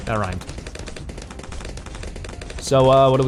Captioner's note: laughs; weapons firing